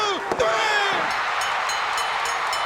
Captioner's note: bell ringing; crowd erupting